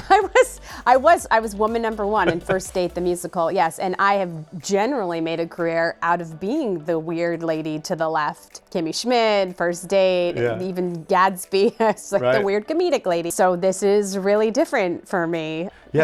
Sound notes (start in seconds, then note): 11.6 laughs